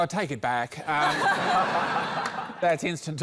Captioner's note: laughter